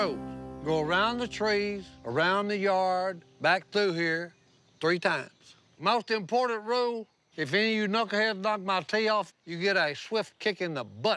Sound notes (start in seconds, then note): none